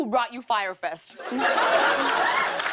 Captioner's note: laughter; applause